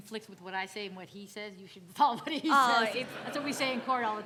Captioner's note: laughs; audience laughing